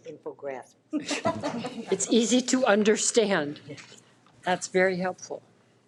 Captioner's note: people laughing